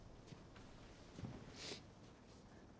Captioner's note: sniffles